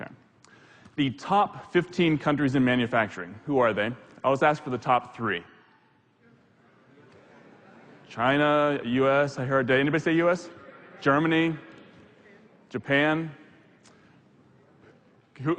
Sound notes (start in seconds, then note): 6.6 audience replying